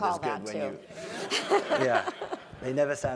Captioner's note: laugh